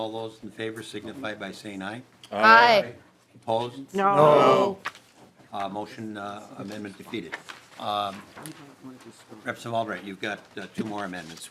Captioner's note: chorus of ayes